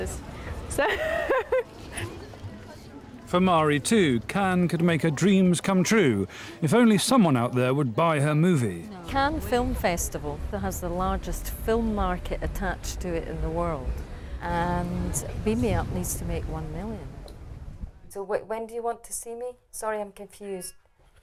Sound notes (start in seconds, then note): 0.8 laughs